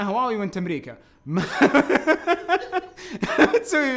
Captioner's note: both laughing